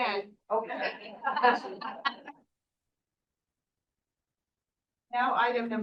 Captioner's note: everyone chuckling